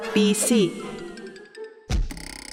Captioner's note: boing